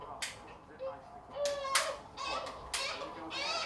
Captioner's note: baby crying